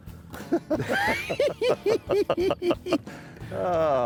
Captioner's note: both laughing